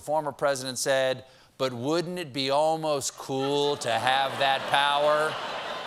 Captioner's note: laughter